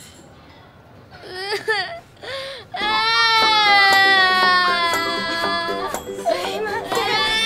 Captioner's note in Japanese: 泣き声